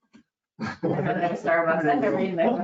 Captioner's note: chuckling